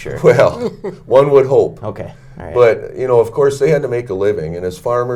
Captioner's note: laughs